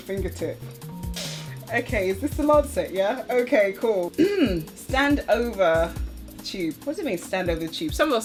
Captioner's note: sharp inhale; clears throat